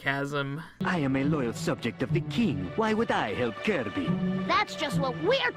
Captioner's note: with obvious sarcasm